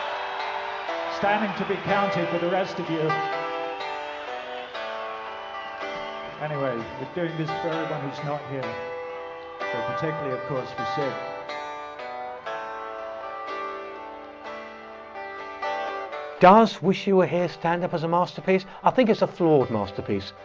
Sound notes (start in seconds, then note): 1.2 crowd cheering and applauding; 6.7 crowd cheering and guitar playing; 13.7 guitar playing